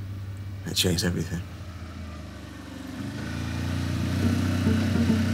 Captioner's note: vehicle humming; light music